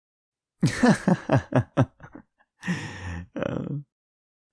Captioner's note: laughs